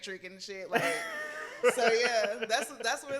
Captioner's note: laughs